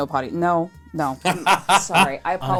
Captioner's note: cackles